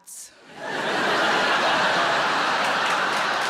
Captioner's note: audience laughs